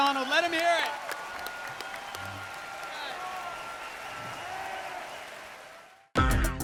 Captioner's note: cheers